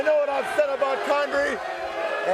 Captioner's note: crowd cheering